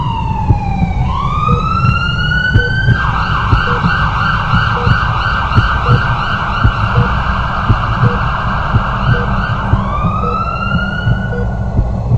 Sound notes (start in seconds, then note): 0.7 Sirin still wailing; 1.5 beeping from a heart monitor; 1.5 heartbeat